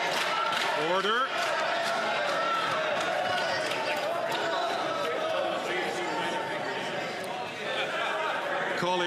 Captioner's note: some Applause; cheering